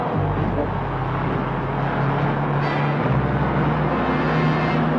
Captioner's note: truck engine whirring